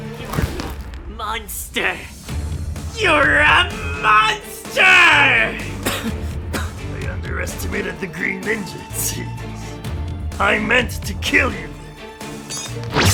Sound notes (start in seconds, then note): 5.4 coughs